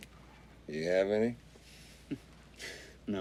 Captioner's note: chuckles